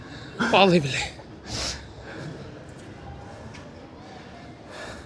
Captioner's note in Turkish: homurdanır